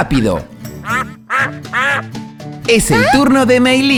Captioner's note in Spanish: Sonido de pato